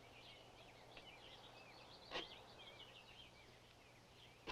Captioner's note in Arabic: تغريد الطيور